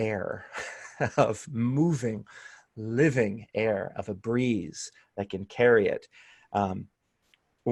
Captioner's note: laughter